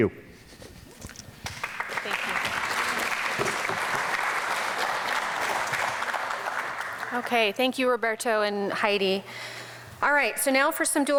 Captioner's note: audience applause